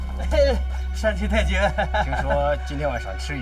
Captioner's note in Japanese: ははは